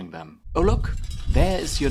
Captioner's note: film reel rattles